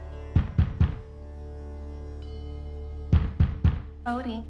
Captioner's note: soft music; fist pounding